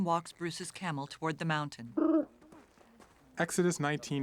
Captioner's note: camel trilling